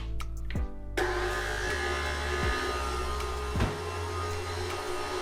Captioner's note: blender churning